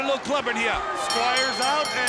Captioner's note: bell ringing